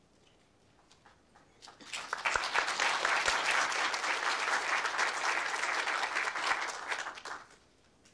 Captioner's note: applause